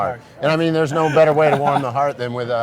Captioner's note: laughing